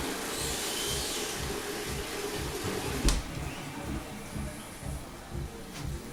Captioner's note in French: bruit de chasse d'eau